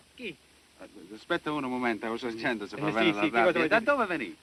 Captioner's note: speaking italian